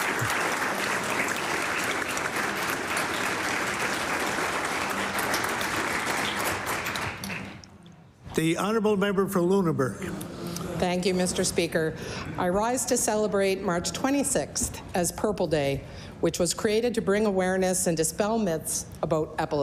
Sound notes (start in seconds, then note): 1.9 applause